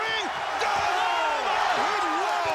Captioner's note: audience cheering